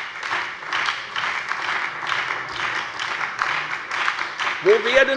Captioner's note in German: Beifall bei der FDP, der SPD und der LINKEN